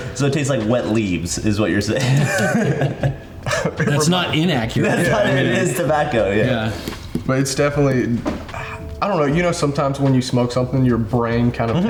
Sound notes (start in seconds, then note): 1.9 laughs